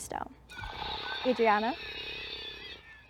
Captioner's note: mandrake screams